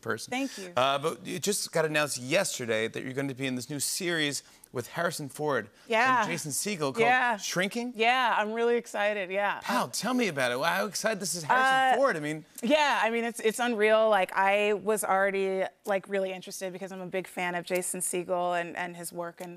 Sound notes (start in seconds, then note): none